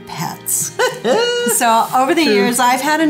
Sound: laughs

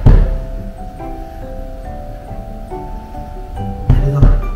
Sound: laughs

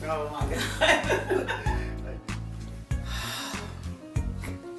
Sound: wife laughs

